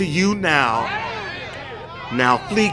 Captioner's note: audience shouting